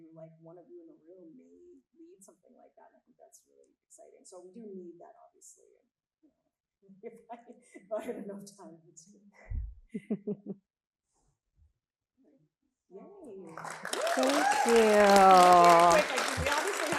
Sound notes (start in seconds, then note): 9.9 chuckles; 9.9 chuckling; 13.4 audience applauding and cheering